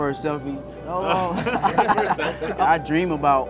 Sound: laughter

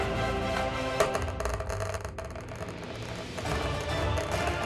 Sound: dice rolling

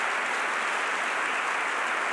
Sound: applause

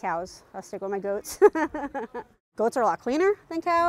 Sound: laughing

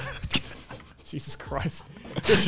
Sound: laughing

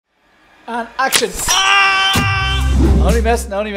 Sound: screaming

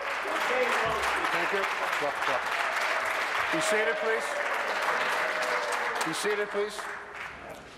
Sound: applause

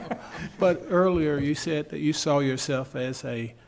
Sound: laughing

